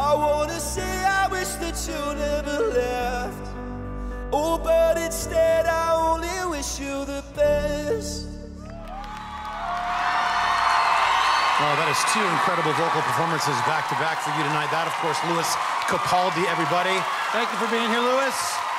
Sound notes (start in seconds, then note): 9.2 applause